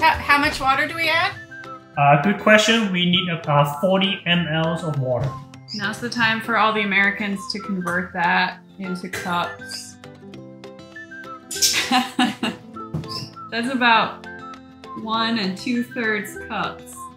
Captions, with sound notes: - How much water do we add? - A good question. We need about 40mLs of water. - Now is the time for all the Americans to convert that into cups. (chuckles softly) That's about one and 2/3 cups.